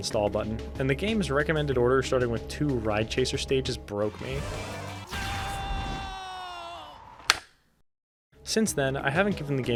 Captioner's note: click